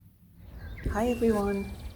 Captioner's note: birds singing